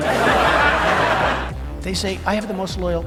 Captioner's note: audience laughs